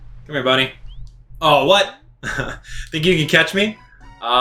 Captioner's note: laughs